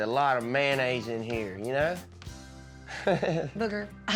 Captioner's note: laughs